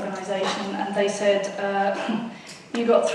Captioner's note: huffs